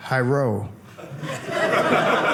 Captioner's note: audience laughing